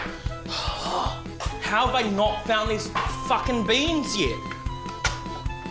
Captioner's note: sighs